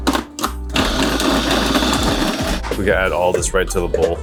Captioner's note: food processor whirring